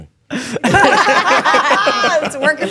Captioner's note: all laughing